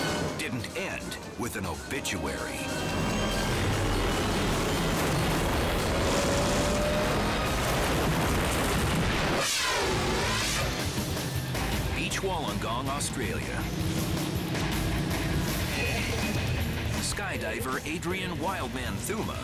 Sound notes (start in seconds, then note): 4.9 helicopter crashes